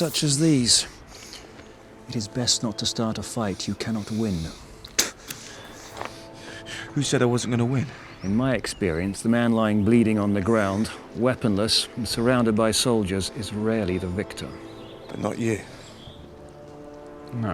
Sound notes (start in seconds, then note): 4.8 spits